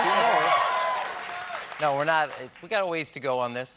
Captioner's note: cheers and applause